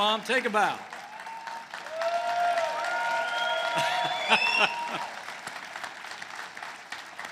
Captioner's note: applause